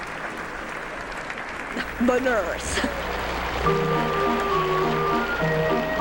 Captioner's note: applause; applause